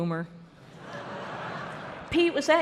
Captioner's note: laughter